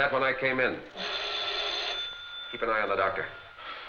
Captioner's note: telephone rings